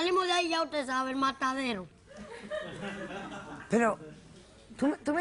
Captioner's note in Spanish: Risas del público